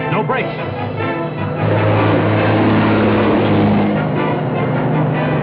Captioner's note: truck accelerates